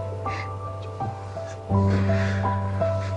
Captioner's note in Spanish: Solloza